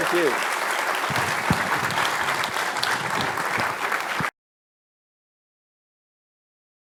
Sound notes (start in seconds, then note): 0.0 applause